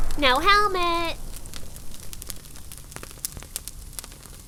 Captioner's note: fire crackling